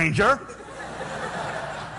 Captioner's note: laughter